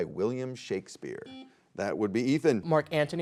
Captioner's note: buzzer beeps